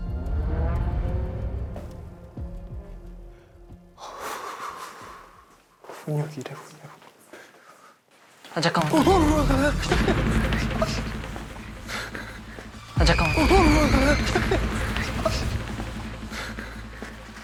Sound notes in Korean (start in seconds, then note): 3.9 탄식